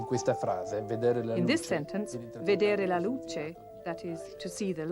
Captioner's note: italian